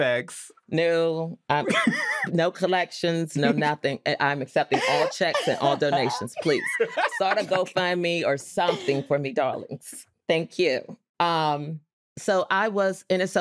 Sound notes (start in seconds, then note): 6.5 all laughing